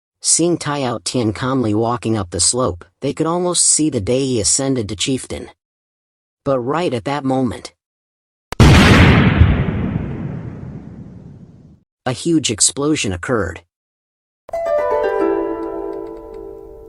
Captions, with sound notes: Seeing Tie Ao Tian calmly walking up the slope, they could almost see the day he ascended to chieftain. But right at that moment… (Explsoion) A huge explosion occurred.